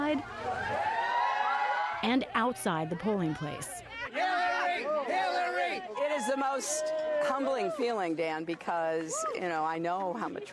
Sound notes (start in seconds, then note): 3.8 cheers